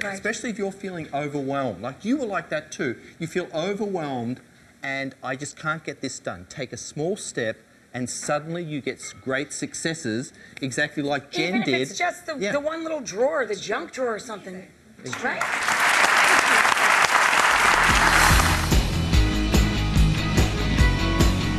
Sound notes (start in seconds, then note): 15.1 audience claps; 17.7 upbeat rock music